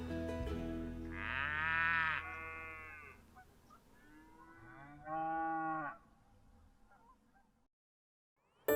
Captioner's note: cattle mooing